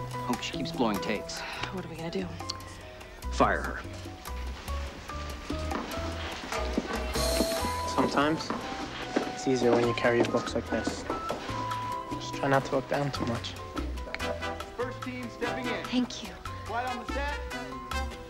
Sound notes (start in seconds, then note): none